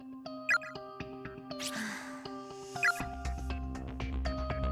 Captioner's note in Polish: westchnięcie